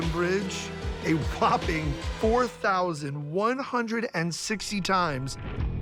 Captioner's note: laughing